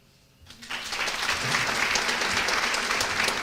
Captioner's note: applause